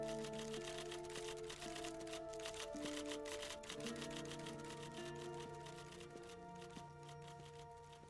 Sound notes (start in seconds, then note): 0.0 typewriter keys clicking